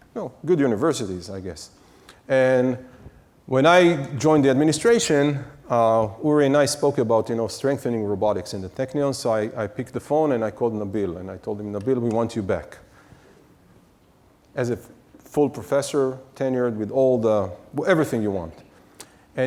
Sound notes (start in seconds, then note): none